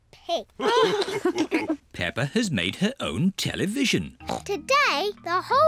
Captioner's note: all laugh